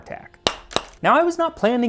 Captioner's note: clack Clack